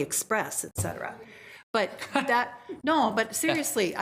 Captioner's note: group laughs